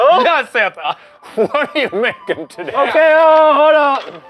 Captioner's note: laughing; gentle holiday music